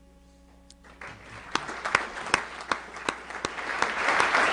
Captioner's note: applause